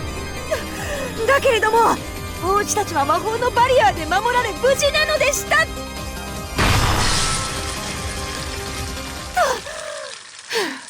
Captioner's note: huff